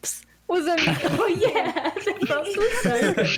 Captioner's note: all laugh